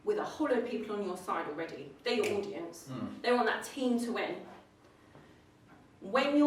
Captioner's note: clicks